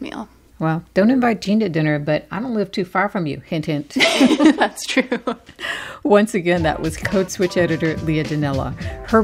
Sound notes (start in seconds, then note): 4.0 laughter